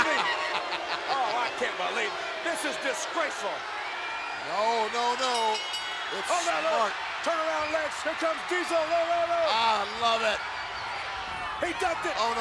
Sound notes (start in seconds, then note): 5.1 bell rings